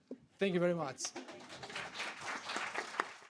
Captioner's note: audience applauding